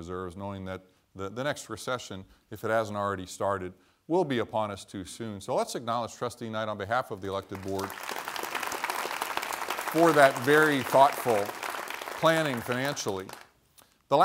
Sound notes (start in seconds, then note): 7.4 applause